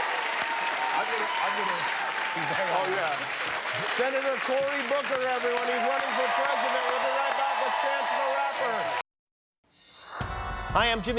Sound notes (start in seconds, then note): 3.9 cheers and applause